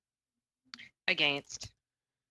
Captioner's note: speaking French